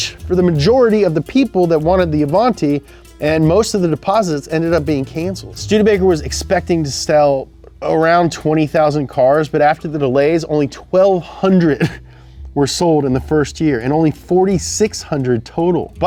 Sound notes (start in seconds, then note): 11.6 coughs